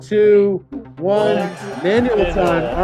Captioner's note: bell ringing